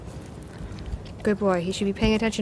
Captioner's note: clicks tongue